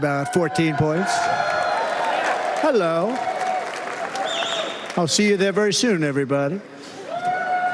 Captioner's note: cheers and applause